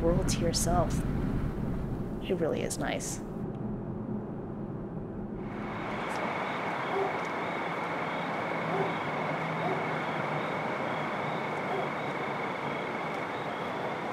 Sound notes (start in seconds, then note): 6.8 dog barking